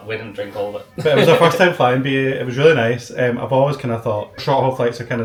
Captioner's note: laughs